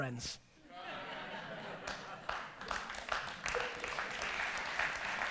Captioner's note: audience laughter and applause